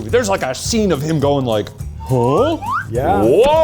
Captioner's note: slide whistle tooting